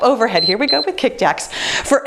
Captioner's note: timer beeps